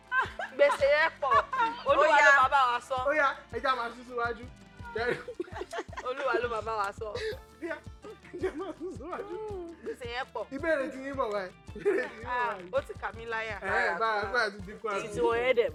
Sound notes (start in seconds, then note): 4.8 laughs